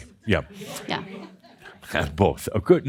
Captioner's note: a few chuckles